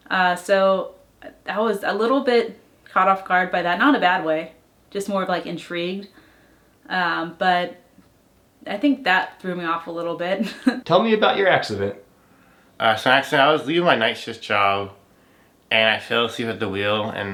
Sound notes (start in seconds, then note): 10.1 laughs